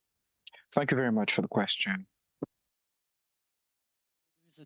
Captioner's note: speaking French